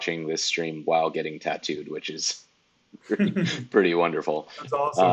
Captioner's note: laughs